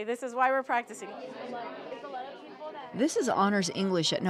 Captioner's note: children chattering